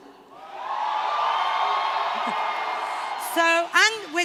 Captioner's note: shouting